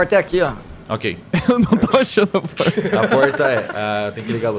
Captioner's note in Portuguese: risadas